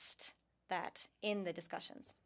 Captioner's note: speaking french